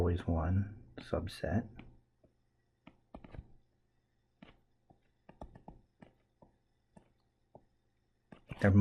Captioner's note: tapping Sounds